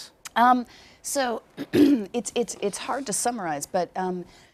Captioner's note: clears throat